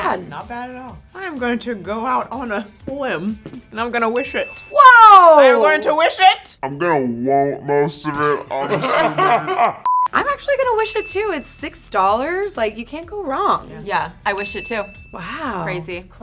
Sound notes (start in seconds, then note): 10.8 high pitched beep